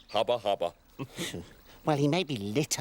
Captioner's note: chuckling